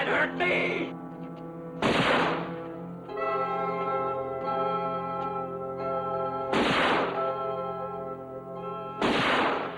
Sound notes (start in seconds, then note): 1.6 dramatic orchestral music; 1.8 gun firing